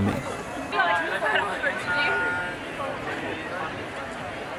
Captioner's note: chattering